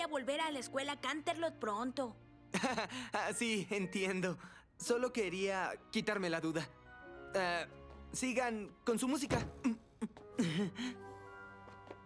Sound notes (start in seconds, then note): 9.3 thud